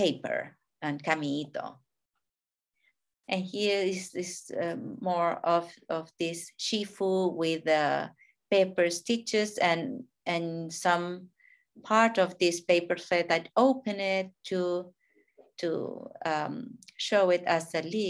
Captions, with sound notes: and paper. And (speaking in a foreign language). And here is this more, of this shifu, with paper stitches and some part of this paper that I open it to show it as a leaf